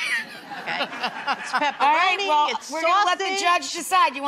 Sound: laughter

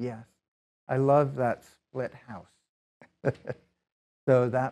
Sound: laughs

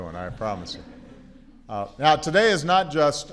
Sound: laughter

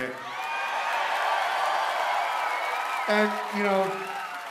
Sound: cheering

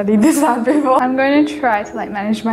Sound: laughs

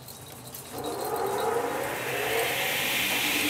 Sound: the machine starts

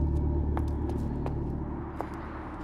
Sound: footsteps

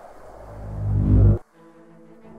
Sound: ominous pulsation

